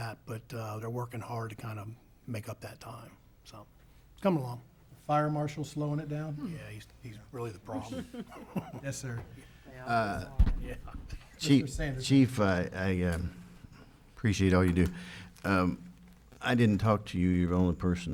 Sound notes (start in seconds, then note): 7.6 laughing